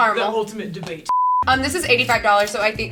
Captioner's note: beep